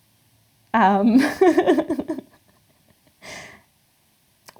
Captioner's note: laughing